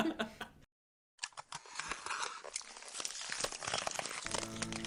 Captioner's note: ice cracking